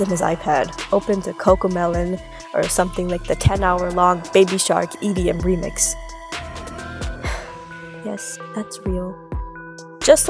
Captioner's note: sigh